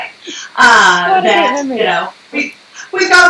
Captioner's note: laughs